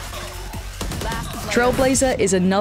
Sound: gun firing

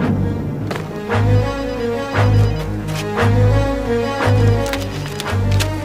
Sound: phone ringing

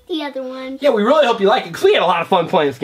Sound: voiceover

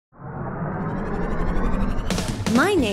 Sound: engine whirring

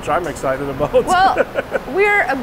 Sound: laughing

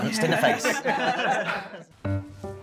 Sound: laughter

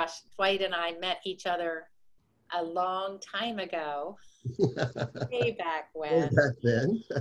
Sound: laughs

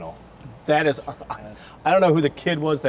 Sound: laughs

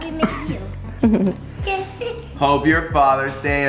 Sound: chuckles

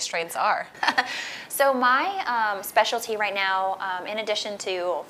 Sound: laughs

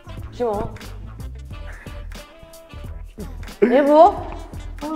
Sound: dirty laugh

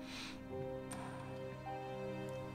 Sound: sniffles

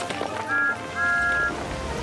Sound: thomas whistles

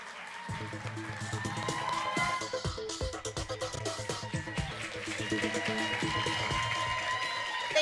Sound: applause, music

